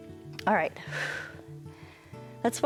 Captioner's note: exhales